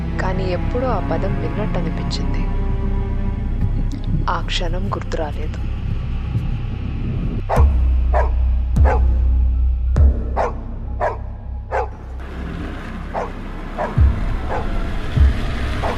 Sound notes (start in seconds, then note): 8.1 dog Barking